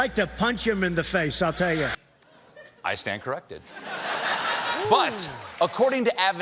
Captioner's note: laughter